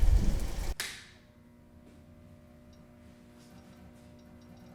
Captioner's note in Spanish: Lluvia para, suena interruptor de luz